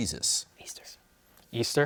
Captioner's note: whispers